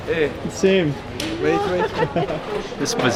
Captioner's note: speaking in foreign language